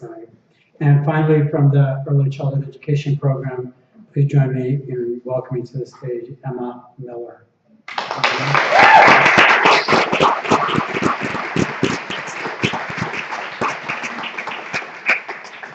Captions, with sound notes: And, finally, from the Early Childhood Education Program, please join me in welcoming to the stage, Emma Miller. [APPLAUSE]